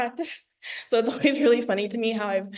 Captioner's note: laughs